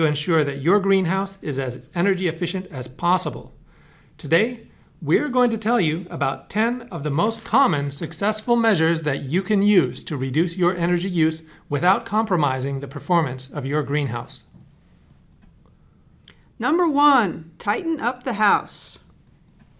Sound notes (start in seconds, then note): 16.5 voiceover